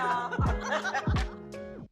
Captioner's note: laughter